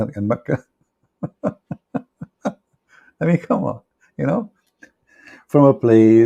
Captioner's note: Ketawa